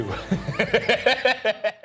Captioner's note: laughing